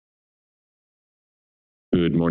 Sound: silence

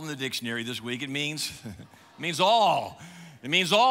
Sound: chuckles

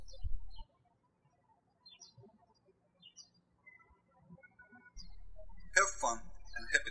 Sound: birds chirping

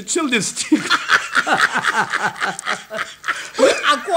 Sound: both laugh

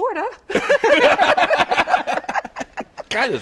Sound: laughter

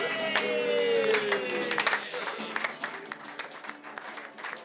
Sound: group cheers

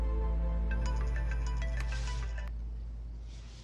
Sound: ringtone

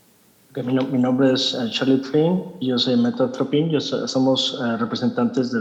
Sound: translator speaking in Spanish

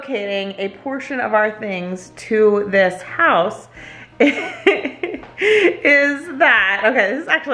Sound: laughs

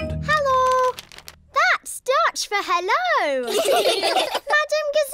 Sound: laughter

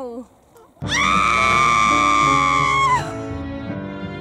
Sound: scream

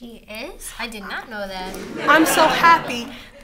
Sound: audience Laughter

